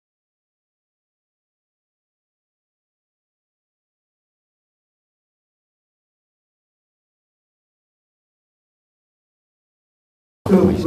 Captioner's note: silence